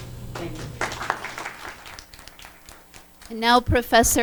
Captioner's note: audience applauds